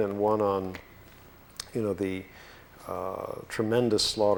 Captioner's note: none